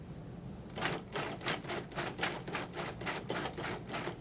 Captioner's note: food processor whirring